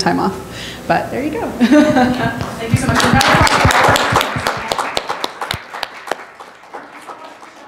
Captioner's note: applause